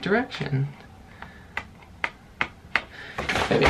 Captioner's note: paper flipping